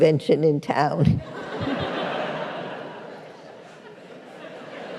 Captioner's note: laughter